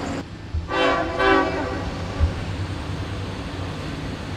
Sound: horn blowing

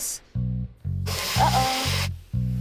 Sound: water sizzling

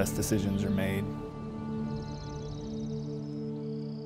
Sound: birds chirping and trilling

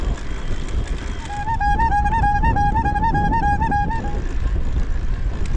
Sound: trike honking

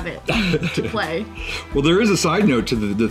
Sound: man chuckling

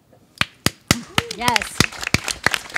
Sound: audience claps

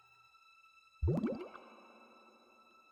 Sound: water burbles

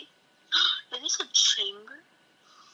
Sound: gasp

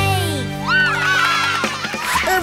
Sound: cheering

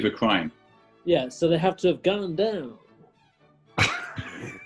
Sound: american accent; sniggering

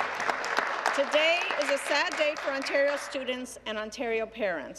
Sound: applause

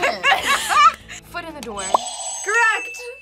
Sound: both laugh; buzzer rings

